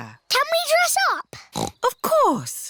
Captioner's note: snorts